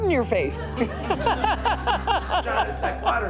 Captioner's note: laughing